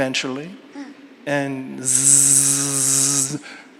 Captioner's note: imitates hair clipper buzzing